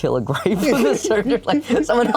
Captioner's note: laughs